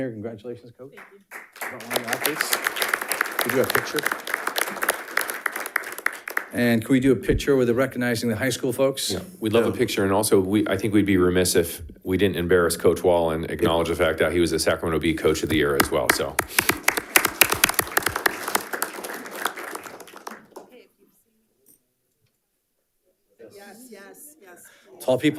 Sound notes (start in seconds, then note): 5.1 panelists applauding; 17.1 panelists applauding